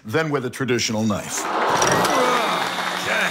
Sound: audience applauds

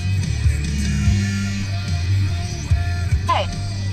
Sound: phone vibrates

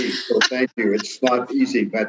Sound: laughing

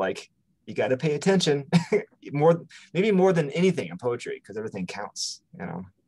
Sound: chuckles

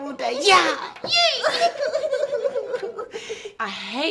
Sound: giggling

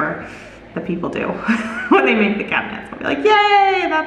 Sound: laughs

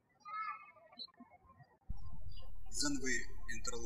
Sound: birds chirping

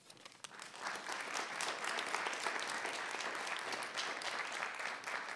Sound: audience applauding

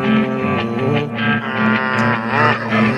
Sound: uhm, hum

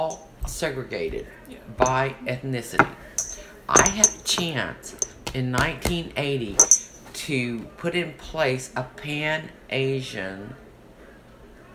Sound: taps table

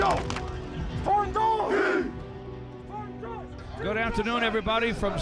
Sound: football players chant

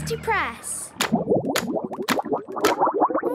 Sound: bubbling

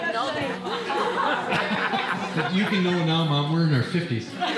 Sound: group laughing

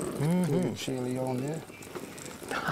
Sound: laughing

